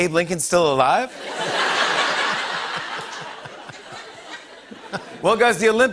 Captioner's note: laughter